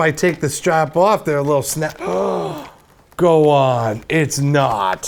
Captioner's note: gasp